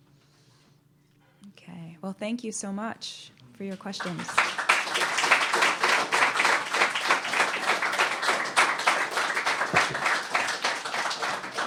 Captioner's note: applause